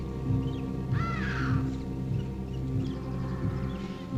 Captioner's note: birds cawing